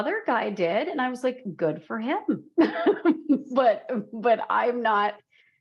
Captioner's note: laughs